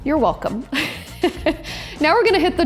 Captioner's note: laughs